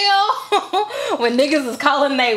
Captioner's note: chuckles